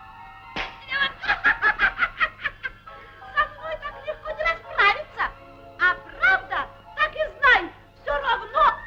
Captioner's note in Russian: смех